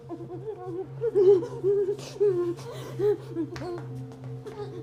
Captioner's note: Aleks sobbing